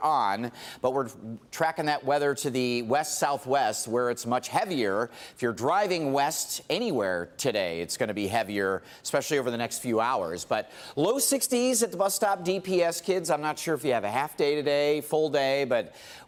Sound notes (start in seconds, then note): none